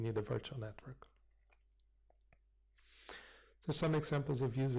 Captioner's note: pause